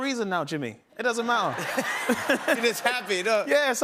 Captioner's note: laughter